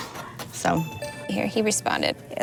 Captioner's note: computer chimes